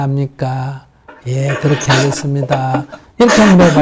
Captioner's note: questioner Laughter